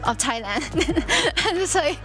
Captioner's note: laughs